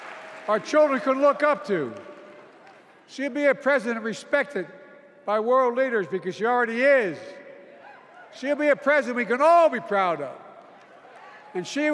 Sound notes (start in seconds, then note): 0.0 cheers and applause